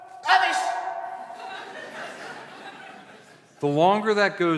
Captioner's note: laughter